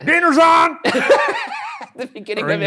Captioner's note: laughing